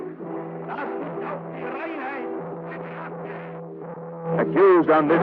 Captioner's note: muffled foreign language dialog